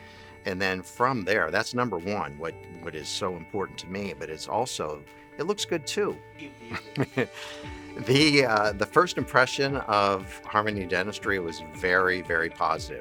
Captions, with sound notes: And then from there, that's number one, what it's so important to me, but it's also, it looks good too. [laughing] The first impression of Harmony Dentistry was very, very positive.